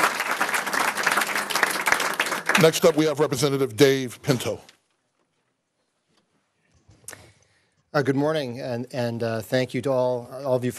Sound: applause

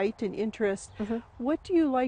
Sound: humming

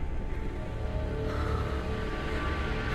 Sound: heavy breathing

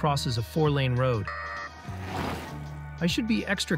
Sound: alarm beeps; car whooshes

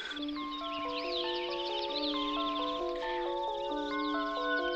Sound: birds chirping; eerie music

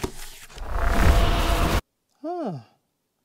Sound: sonic zapping

